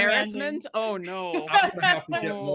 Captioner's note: laughing